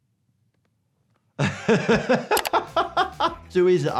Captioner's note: laughs